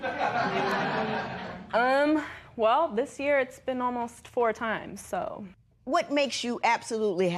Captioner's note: laughter